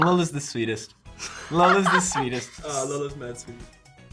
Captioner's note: Lola laughs